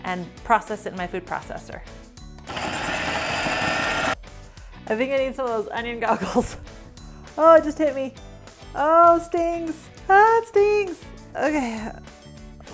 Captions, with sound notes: and process it in my food processor. (food processor whirling) I think I need some of those onion goggles (chuckles). Oh, it just hit me. Oh, stings! Ahh it stings! Okay.